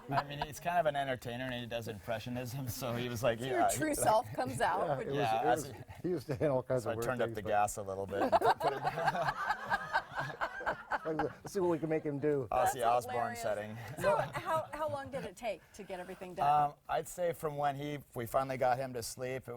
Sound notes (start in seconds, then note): 8.2 laughing